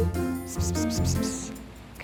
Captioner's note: Nanette hissing